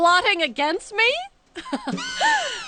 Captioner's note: laughing